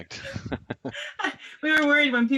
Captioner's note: laughing